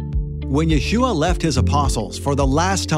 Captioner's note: male Voice